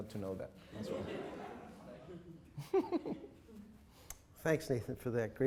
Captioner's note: audience laughing